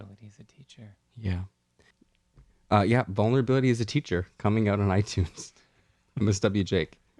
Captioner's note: laugh